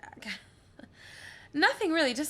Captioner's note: laughing